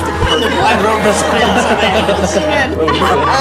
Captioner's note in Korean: &스태프 웃음